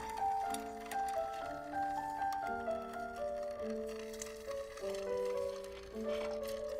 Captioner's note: film clicking